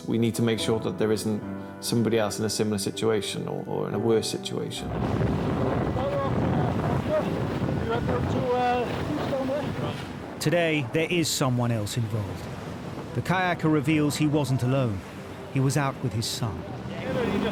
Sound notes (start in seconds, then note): 4.9 soft music; 6.1 wind blows